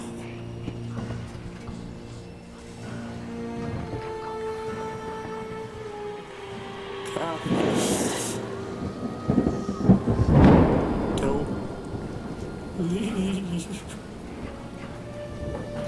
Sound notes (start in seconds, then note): 0.3 dramatic music; 9.0 storm raging